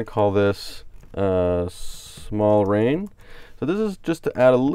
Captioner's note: types on keyboard